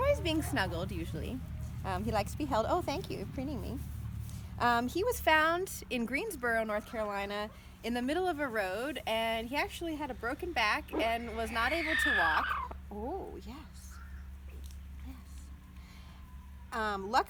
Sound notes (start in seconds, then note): 12.4 rooster purrs